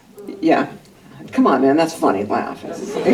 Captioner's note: laughter